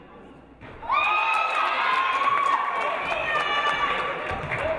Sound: audience cheering

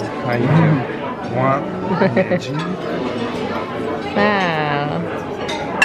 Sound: waiter speaking foreign language; plates clanking

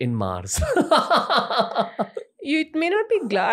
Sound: laughter

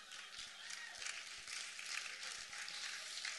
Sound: applause

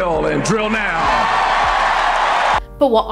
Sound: neoliberal cheering

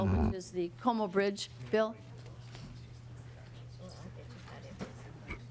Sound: chorus of ayes

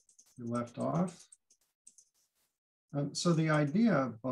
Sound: mouse clicking

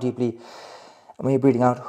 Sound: inhales

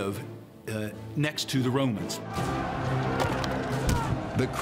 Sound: battle cry

